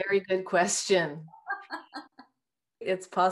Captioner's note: laughs